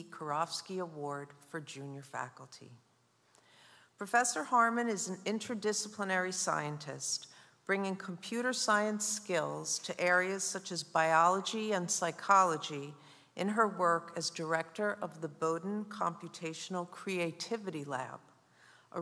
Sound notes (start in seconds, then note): none